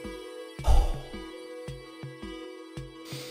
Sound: sighs

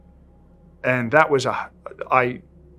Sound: sighs

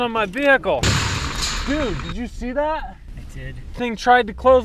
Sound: gate crashing

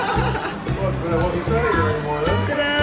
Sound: laughter

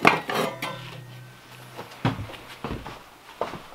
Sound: metal scraping

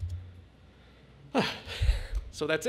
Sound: sighs

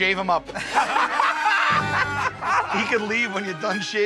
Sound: laughter

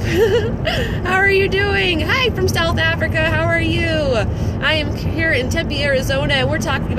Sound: laughs

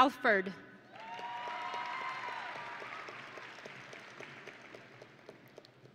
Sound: audience and graduates cheering

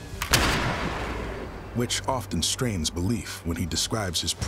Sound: gunshot

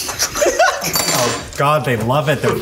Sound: laughter

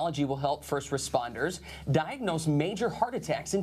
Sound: voiceover

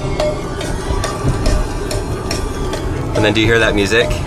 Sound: cowbell chimes

